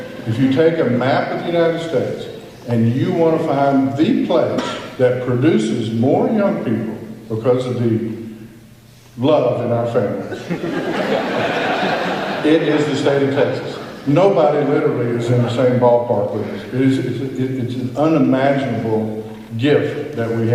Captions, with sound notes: If you take a map of the United States and you want to find THE place that produces more young people, because of the love in our families, [laughter] it's just the state of Texas. Nobody, literally, is in the same ballpark with us. It, it, it's an unimaginable gift that we